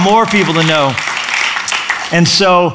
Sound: applause

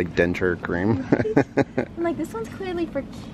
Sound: laughs

